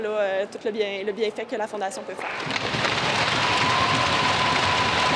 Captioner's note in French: applaudissements